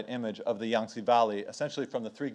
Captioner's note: speaks in foreign language